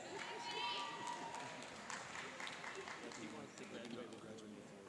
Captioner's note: cheering and applauding